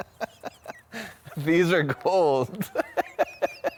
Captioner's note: laughing; laughs